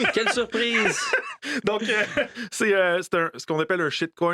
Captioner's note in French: rire